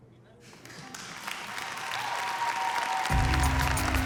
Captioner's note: audience cheers, applauds